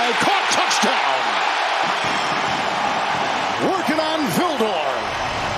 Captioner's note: cheers and applause